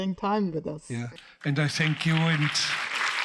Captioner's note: audience applauding